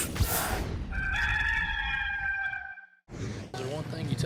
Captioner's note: rooster crowing